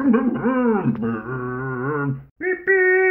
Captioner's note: Scruff makes scooter noises